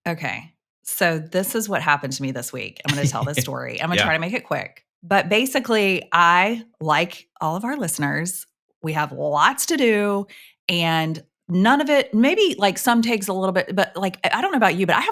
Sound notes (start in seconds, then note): 2.9 chuckles